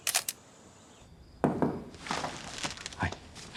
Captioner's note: shutter clicks; knock on door